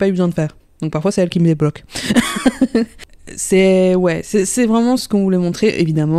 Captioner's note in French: rire